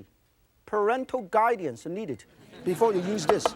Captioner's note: crowd laughing